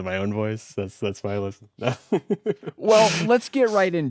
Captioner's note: laughs